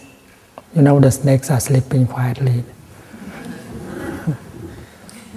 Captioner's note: laughter